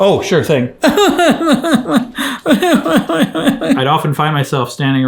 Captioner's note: cry-laughs loudly